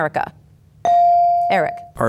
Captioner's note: bell dings